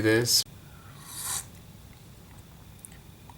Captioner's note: sip